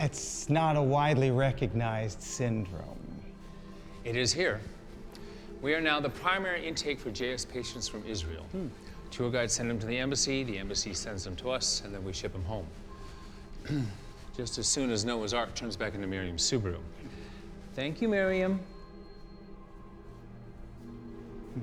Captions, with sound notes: - It's not a widely recognized syndrome. - It is here. We are now the primary intake for JS patients from Israel. - Hm! - The tour guides send 'em to the embassy, the embassy sends them to us, and then we ship 'em home. (clears throat) Just as soon as Noah's Ark turns back into Miriam's Subaru. Thank you, Miriam. (soft suspenseful music)